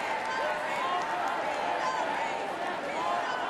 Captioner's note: cheers and applause